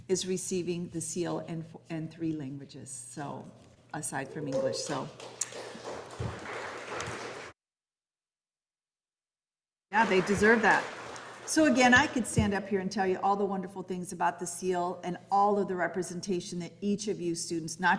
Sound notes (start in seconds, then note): 4.3 audience applauding